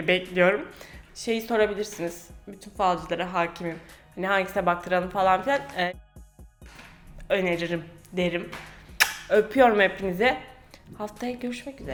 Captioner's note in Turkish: öpücük